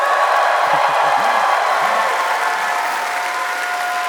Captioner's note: applause